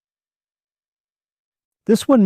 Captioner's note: pause